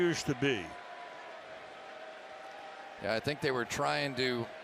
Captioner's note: crowd cheers